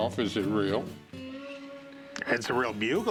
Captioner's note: laughs